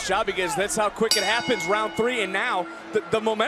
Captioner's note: bell rings